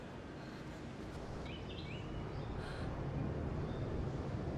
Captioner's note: Julie is breathing hard seeing no escape